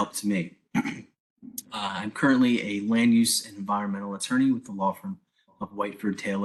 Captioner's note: cough